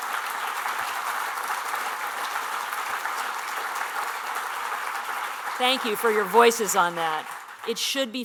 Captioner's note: applause